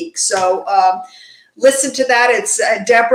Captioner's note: none